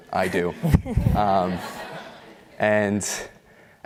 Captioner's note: laughter